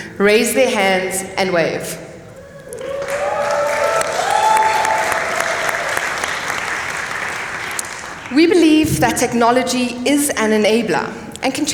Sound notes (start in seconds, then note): 2.8 applause